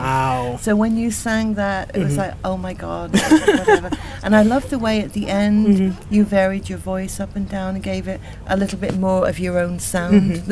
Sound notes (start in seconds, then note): 3.1 laughs